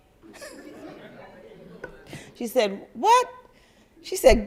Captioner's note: crowd laugther